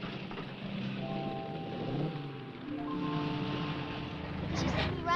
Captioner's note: engines rumbling; gentle music